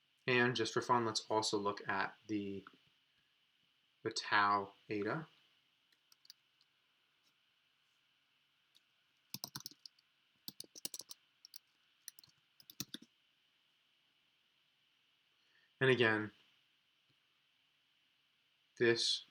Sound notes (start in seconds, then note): 6.1 keyboard clicking